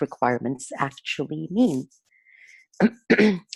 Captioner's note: clearing throat